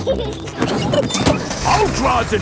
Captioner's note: peppa and george laughing